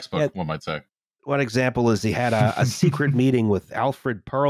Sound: chuckles

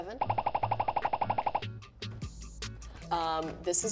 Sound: popping

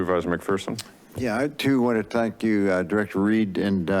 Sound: tongue clicks

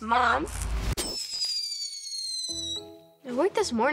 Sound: rocket blasts sound

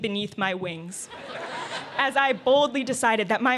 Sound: laughter

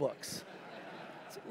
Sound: laughter

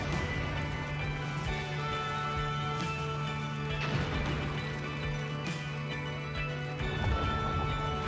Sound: explosion sounds

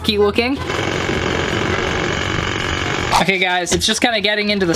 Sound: grator roaring

